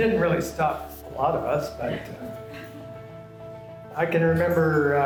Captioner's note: laughter